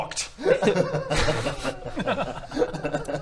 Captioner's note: pitiless laughter